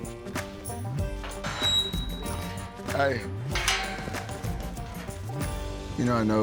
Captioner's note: gate clanks shut